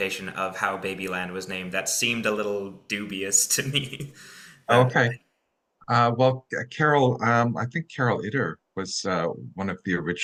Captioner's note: chuckles